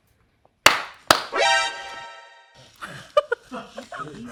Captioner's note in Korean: 남성 박수; 알람 울림; 웃음